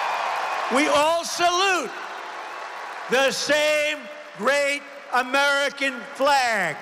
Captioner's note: applause